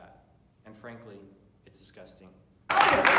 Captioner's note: cheering